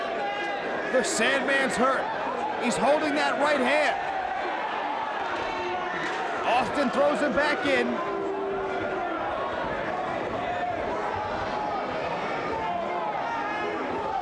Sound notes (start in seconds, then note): 4.5 audience cheers; 8.0 audience jeers